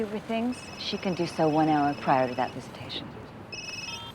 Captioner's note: cell phone rings